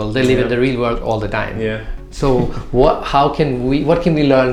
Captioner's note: chuckles